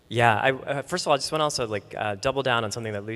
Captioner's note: none